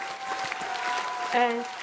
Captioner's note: cheers, applause